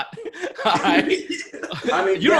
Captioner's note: laughter